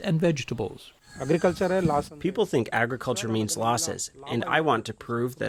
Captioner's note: through translator